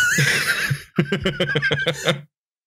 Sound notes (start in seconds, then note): 1.7 laughter